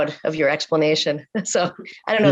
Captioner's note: chuckles